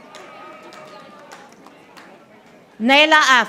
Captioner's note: audience applauding